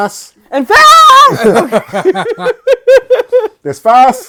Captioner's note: laughing